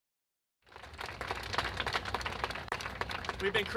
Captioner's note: applause